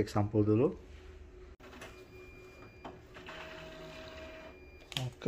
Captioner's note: printer machine sound